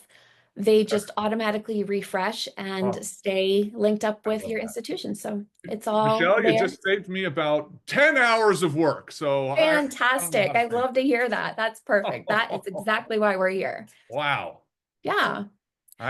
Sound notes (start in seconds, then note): 11.9 laughing